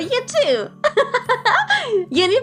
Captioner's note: Risa en inglés